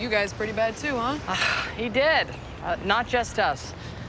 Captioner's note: sighs